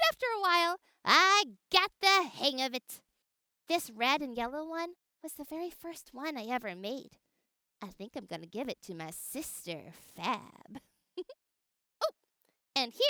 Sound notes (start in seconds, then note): 11.2 giggles